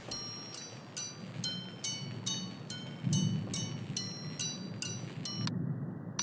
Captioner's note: bell ringing